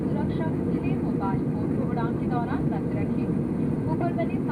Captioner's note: flight attendant speaking